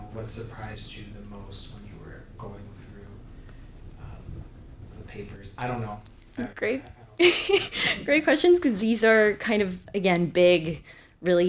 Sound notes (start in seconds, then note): 7.1 chuckles